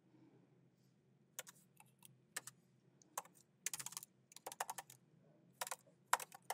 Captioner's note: keyboard clacking continues